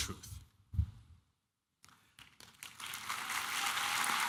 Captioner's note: applause